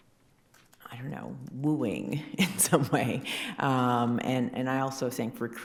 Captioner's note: chuckling